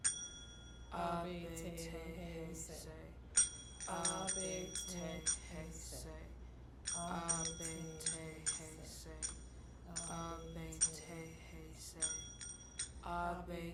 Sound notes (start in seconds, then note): 1.7 Jill and Tish chanting in strange language; 6.8 cymbals tinkling continues